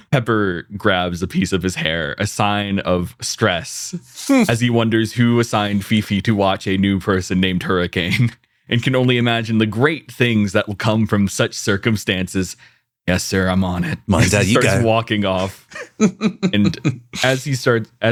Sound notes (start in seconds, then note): 15.4 laughs